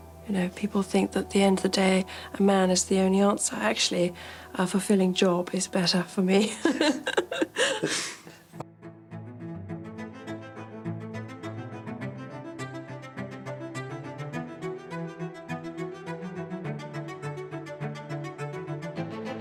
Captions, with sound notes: People think that at the end of the day, a man is the only answer. Actually, a fulfilling job is better for me. (laughter) (dramatic music)